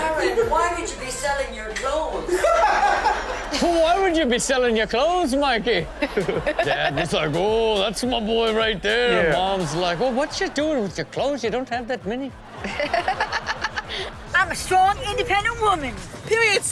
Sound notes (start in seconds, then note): 2.4 laughs; 12.6 Chanel laughs